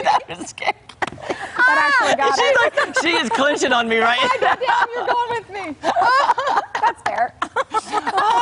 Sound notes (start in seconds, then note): 4.4 laughter